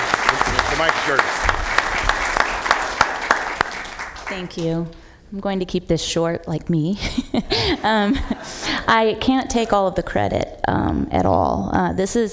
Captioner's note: applause